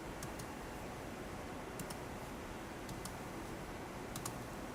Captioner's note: computer mouse clicking